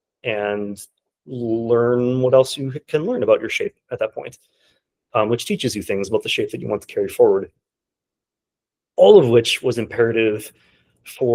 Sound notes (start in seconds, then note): none